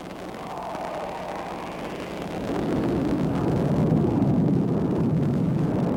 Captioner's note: jet engine roaring